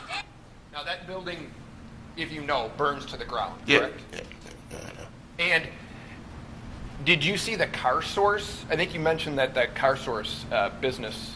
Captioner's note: yelling